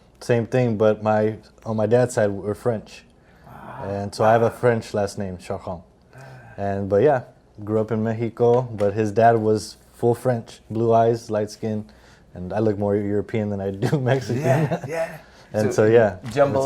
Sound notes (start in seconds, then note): 14.3 chuckle